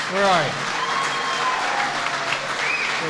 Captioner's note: applause